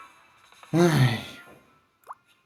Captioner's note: sigh